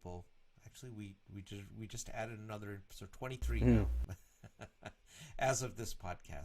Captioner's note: laughs